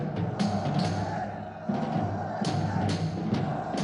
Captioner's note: cheering and yelling